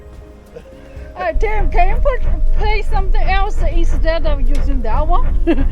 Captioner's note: laughs